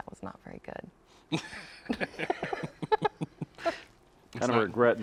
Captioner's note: laughing; chuckling